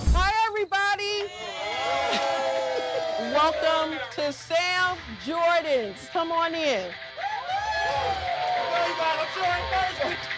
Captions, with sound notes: Hi, everybody! [CHEERS] Welcome to Sam Jordan's. Come on in. [CHEERS] Come on, you guys. I sure am thirsty!